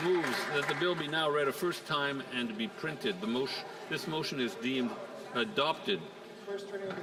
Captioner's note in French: voix de l'interprète